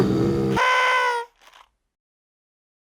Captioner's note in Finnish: Gorillat valittaa; tööttäys, rouskaus